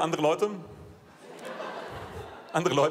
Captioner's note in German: Lachen